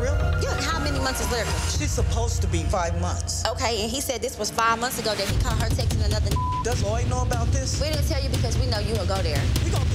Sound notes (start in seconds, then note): 6.2 beep